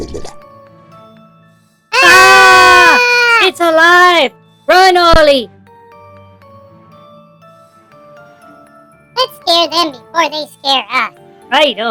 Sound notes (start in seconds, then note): 0.0 sarcastically; 1.9 screaming